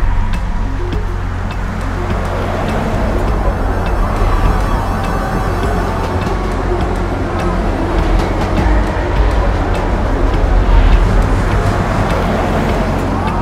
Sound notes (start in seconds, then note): 1.7 cars rumble; 1.7 ominous music; 6.3 train clattering